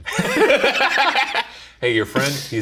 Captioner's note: both laugh